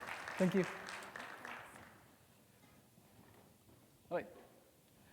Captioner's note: audience applauding